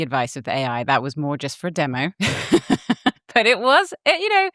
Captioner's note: laughs